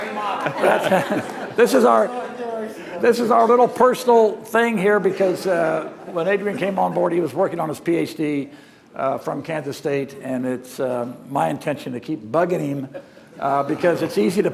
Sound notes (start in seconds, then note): 5.8 laughter